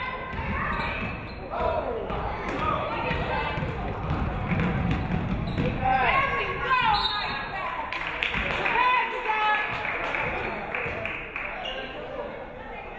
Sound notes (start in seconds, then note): 6.9 referee whistles; 7.9 audience clapping